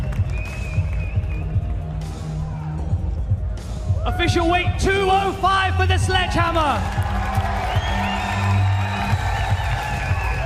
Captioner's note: cheers and applause